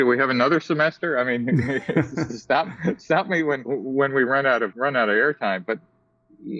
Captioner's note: laugh